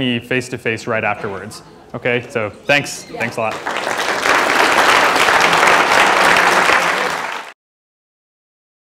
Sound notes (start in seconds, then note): 3.4 applause